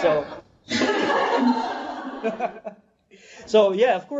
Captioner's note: off screen laughing